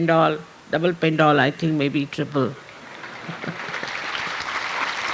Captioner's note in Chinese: 掌聲